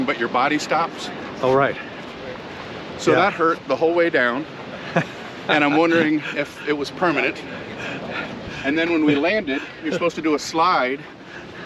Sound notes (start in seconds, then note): 5.4 laughs